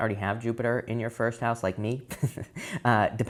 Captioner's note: man chuckles